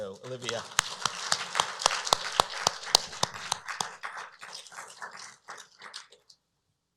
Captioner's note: applause